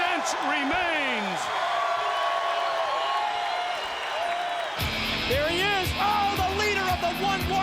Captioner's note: applause